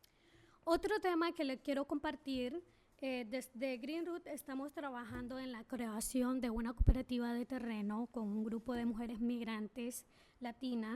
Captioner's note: speaking spanish